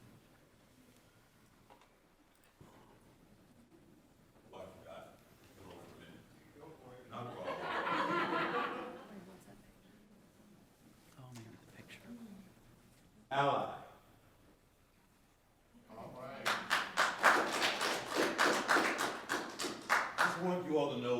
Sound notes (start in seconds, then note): 6.5 speaking faintly off mic; 7.3 audience laughing; 16.4 audience applauding